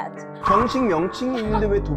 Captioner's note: sound effect: Offended